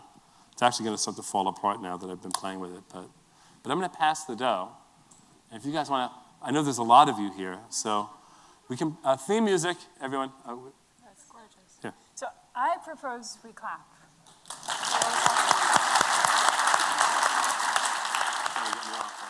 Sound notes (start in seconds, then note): 14.4 applause